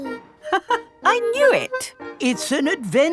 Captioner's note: laughs